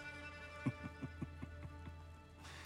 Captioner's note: laughs